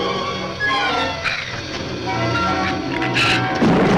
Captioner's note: shrew snarls; thunder claps; shrew snarls